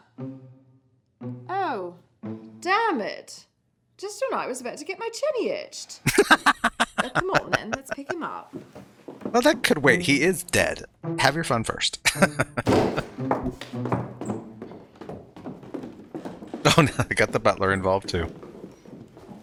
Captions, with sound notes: [Laughing] Well, that could wait. He is dead. Have your fun first. [Chuckling] Oh, now they've got the butler involved, too.